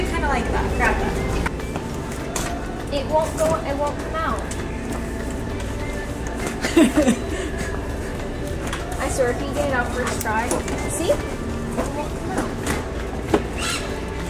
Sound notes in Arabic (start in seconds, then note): 6.5 ضحك